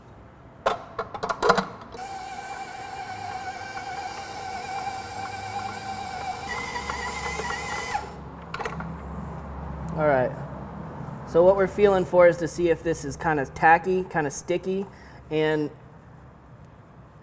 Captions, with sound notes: (mixer whirring) Alright, so what we're feeling for is to see if this is kinda tacky, kinda sticky and does it hold together.